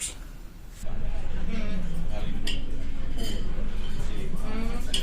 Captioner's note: people talking